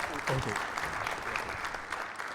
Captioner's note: audience applauding